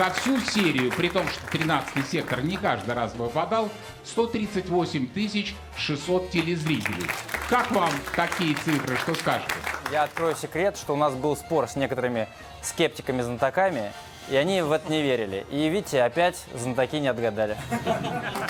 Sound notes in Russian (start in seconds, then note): 6.3 аплодисменты; 18.3 аплодисменты